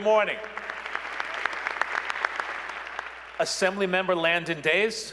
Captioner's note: applause